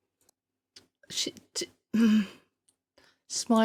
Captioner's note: clears throat